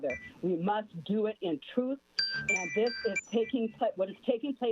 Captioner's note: chime